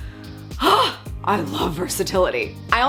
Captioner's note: sighs